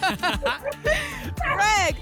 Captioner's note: laughter